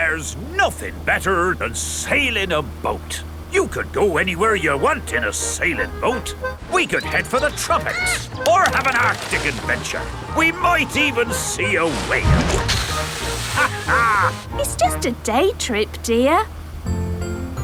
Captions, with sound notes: There's nothing better than sailing a boat. You can go anywhere you want in a sailing boat. We could head for the tropics, or have an Arctic adventure. We might even see a whale! (CAPTAIN DOG LAUGHS) It's just a day trip, dear.